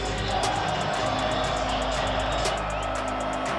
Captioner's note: crowd cheering